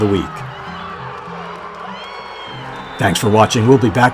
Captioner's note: crowd cheering